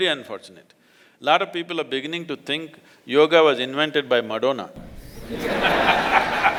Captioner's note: laughter